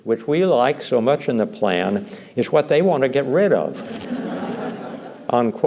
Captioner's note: laughter